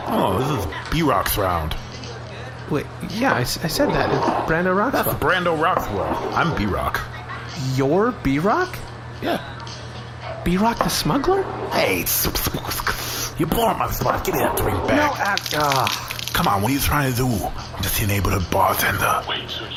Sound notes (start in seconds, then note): 12.1 sputters; 18.6 whispering, impressed